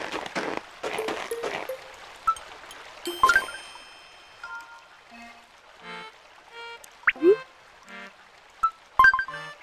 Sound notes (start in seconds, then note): 2.2 water sound